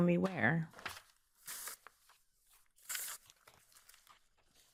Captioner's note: papers flapping